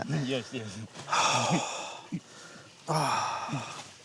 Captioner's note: exhales contentedly